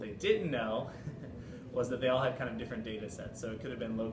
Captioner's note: laugh